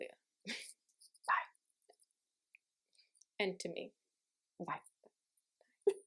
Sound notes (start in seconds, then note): 0.0 maniacal laughter; 0.6 whispering